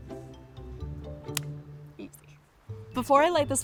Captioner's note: stick breaking